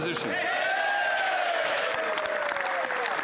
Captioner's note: some Applause